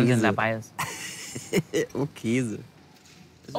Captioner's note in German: lacht